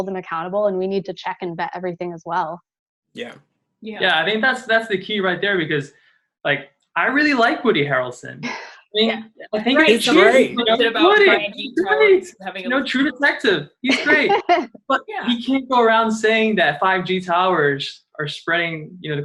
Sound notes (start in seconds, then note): 11.4 overlapping chatter; 13.8 laughs